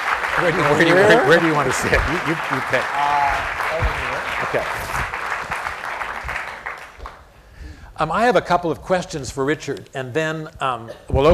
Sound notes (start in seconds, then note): 0.0 applause; 2.7 applause